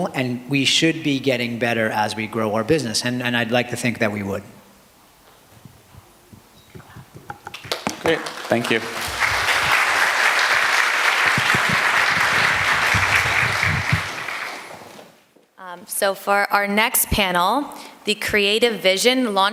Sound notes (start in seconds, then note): 12.0 applause